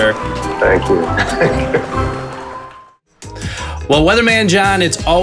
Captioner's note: laughing